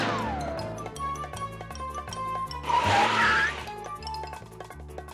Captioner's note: echoing